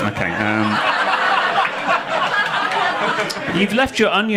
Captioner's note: audience laughing